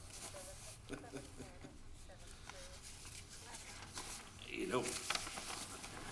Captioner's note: chuckles